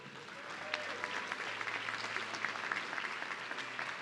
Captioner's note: audience clapping